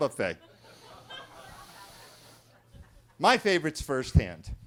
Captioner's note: attendees laughing